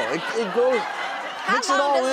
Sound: audience laughs

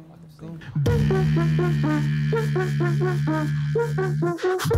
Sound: beatboxing

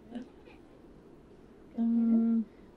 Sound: laughter

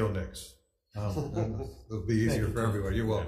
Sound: chuckles

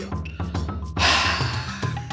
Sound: sigh

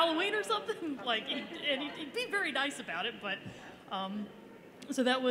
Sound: laughter

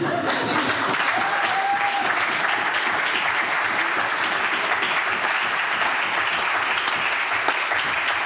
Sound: applause

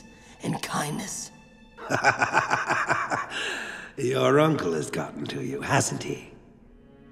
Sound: laughing

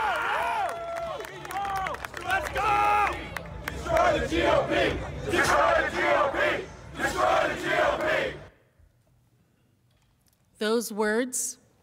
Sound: cheering and applause

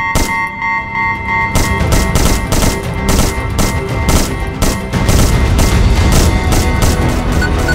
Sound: alarm; alarm and multiple gunshots; gunshot; portal gun sounds

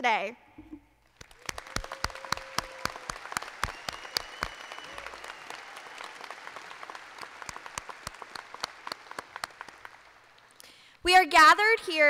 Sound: applause

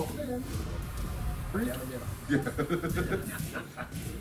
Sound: laugh

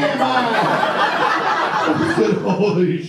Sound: audience laughs

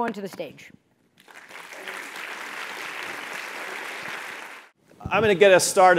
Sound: audience applauding

